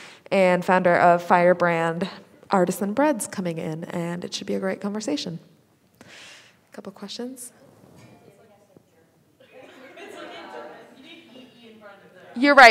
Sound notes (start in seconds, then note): 8.4 student faintly speaking; 9.4 students laughing